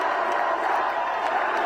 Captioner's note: applause; cheering